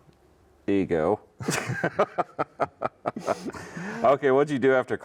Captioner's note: laughing